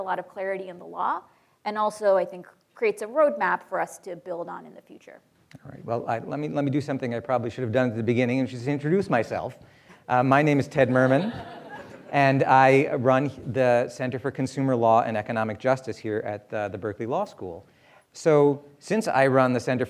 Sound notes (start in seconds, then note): 10.8 audience laughter